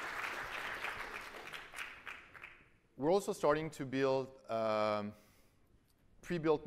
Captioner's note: applause